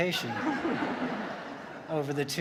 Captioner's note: audience laughs